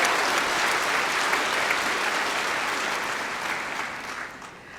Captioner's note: applause